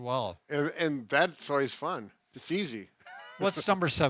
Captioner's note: chuckles